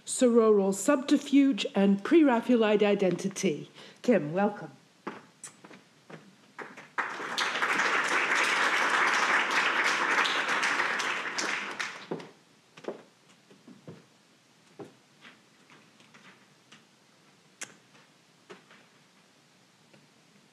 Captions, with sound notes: Sororal Subterfuge and Pre-Raphaelite Identity. Kim, welcome. (audience applauding)